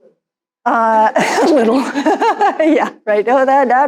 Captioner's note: laughing